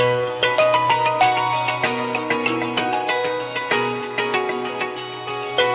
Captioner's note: Phone ringing